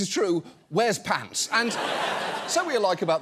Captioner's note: audience laughs